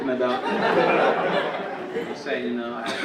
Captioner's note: audience laughing